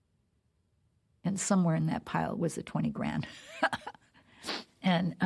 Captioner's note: chuckles